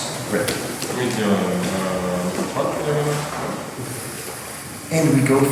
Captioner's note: speaking in a foreign language